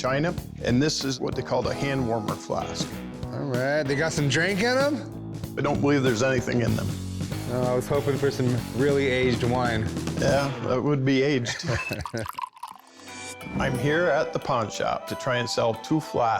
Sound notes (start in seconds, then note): 11.4 chuckles; 11.7 liquid pouring